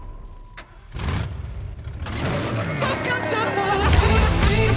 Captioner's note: car engine revs